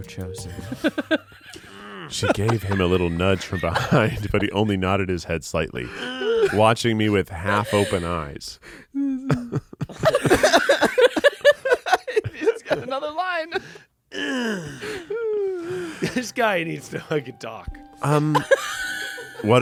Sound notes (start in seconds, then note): 0.6 laughs; 9.8 everyone laughs; 14.2 grunts